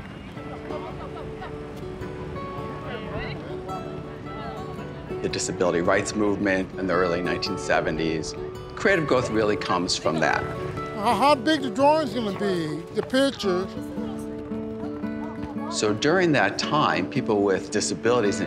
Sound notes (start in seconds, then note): 0.1 lighthearted music; 2.2 overlapping chatter